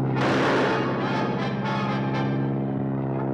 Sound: rifle fires

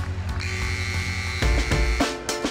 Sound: buzzer

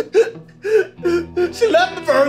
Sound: crying

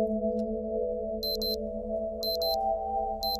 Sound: alarm beeps

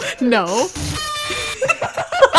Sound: slight earrape

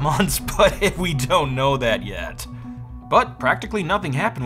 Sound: laughing

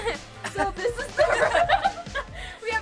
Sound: laughs

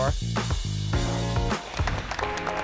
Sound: applause; upbeat music

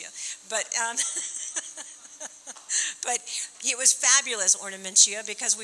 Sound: laughing

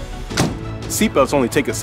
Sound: ambulance door closes

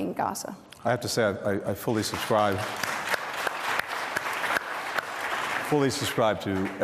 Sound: applause

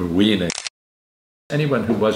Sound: camera click

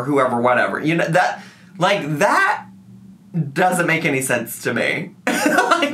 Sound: laughs

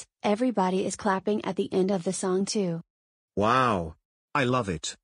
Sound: none

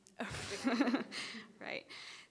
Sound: laughing

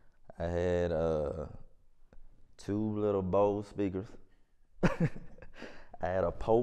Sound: laughs

